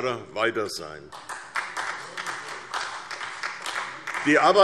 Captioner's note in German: Beifall